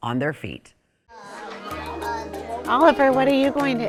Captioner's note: students chattering